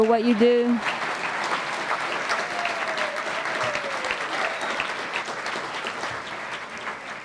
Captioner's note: applause